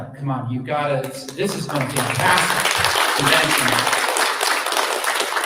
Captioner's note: applause; applause cont